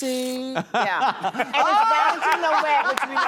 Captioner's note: all laugh